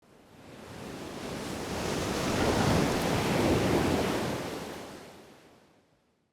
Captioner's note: waves crashing